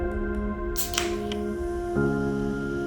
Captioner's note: soda can opens